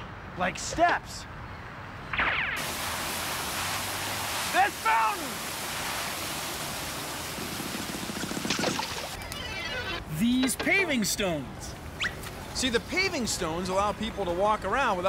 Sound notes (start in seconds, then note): 4.4 yelling